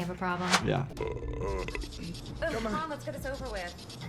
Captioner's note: man belching